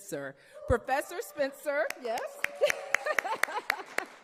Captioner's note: laughing; audience cheering and applauding